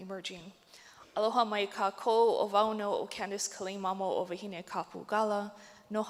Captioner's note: speaks native language